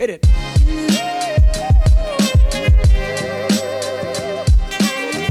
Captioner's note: oooh; upbeat hip hop music